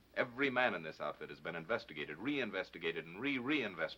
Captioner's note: none